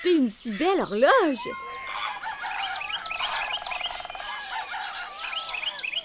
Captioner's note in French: pépiements d'oiseaux